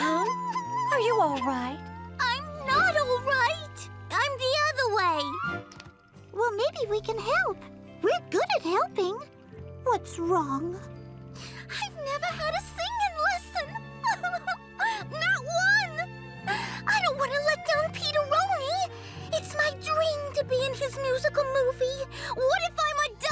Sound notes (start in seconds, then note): 0.1 Portia crying; 14.0 crying